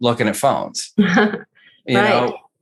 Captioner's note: laughs